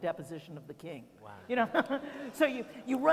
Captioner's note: laughter